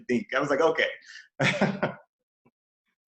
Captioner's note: laughs